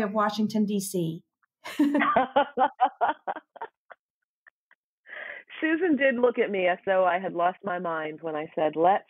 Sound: laughter

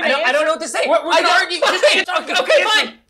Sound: shouting

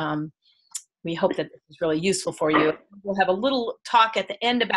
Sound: audio skips

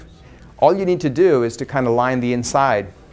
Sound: none

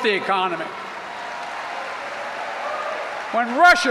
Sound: applause

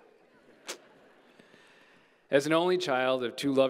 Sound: audience chattering

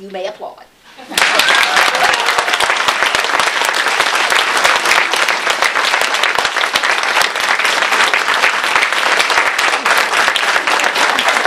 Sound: applause

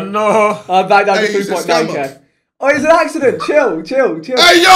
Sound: all laughing

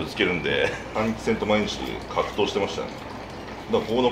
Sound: laughter

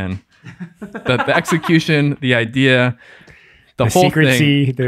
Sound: laughs

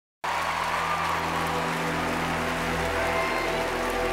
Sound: crowd cheering and applauding; ominous music

